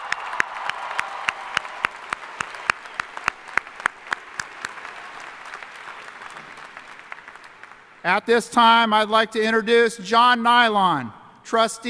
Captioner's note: cheering and applause